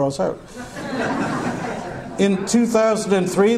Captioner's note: audience laughter